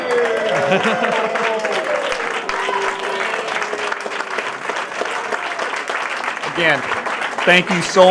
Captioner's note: applause and Cheering